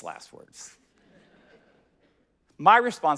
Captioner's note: audience laughing